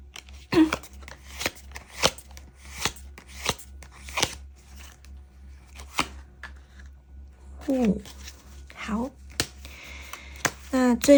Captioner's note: drawing cards